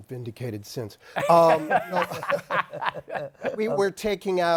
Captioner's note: laughs